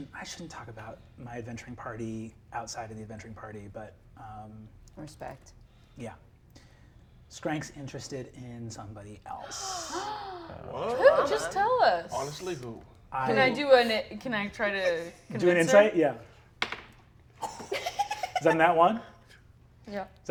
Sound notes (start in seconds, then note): 9.5 all gasping; 17.4 giggles